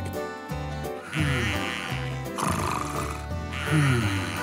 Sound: snoring

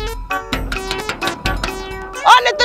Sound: knocking on the door

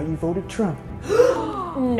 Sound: gasps

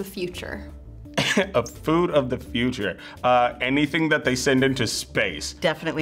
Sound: chuckles

